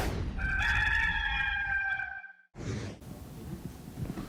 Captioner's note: rooster crowing